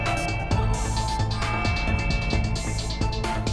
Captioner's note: alarm blaring